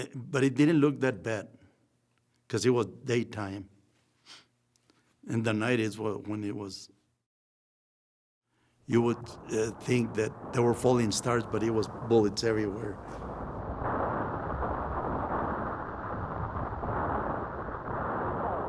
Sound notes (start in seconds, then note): 13.8 gun fires